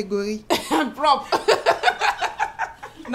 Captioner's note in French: rires